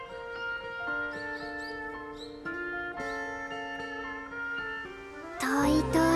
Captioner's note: none